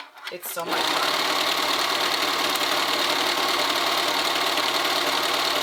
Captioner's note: sewing machine whirring